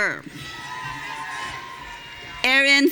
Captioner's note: audience cheering